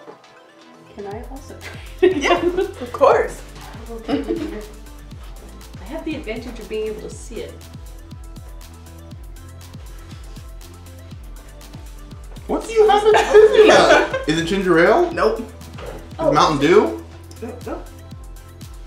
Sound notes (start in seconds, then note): 3.8 little gremlin laugh in the background